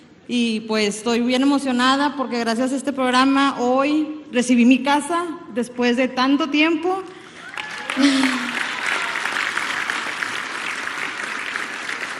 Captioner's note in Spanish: aplausos